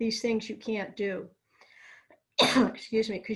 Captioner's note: coughs